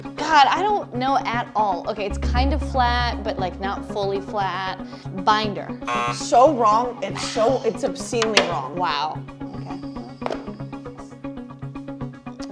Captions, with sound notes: God, I don't know at all. Okay, it's kinda flat but like, not fully flat. Binder. (buzzer sounds) - So wrong. It's obscenely wrong. - Wow. Okay.